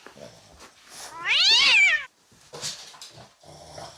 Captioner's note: noise of angry cat